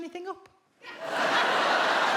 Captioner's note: audience laughs